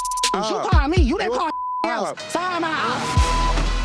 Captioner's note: beep; dramatic music